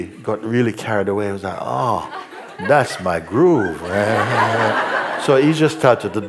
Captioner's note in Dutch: gelach